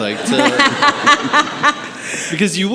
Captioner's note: audience laughing